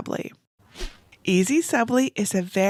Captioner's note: graphics whooshing